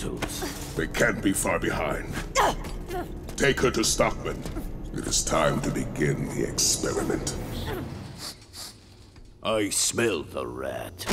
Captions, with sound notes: They can't be far behind. Take her to Stockman. It is time to begin the experiment. [sniffing] I smell the rat.